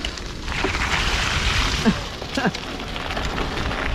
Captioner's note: water splashing